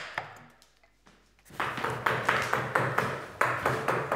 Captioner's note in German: Dunkleres Hämmern